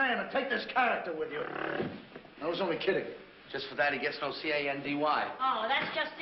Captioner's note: growls